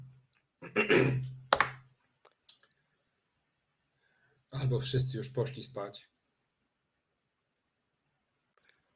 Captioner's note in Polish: Aplauz